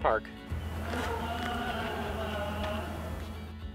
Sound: loud, deep voiced scream

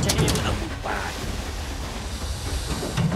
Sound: alligator hissing

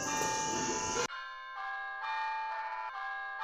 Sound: cellphone rings

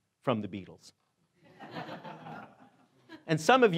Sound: laughing

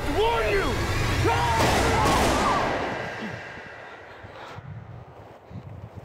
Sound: screaming; gun firing

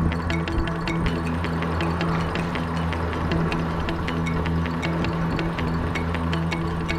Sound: splashing and wind noise

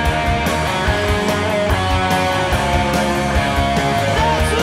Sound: audience cheering

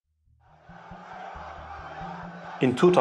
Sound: crowd chanting

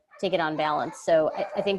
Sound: dog whining, barking

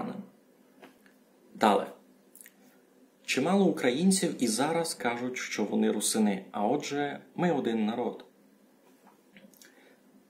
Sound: speaks Ukrainian

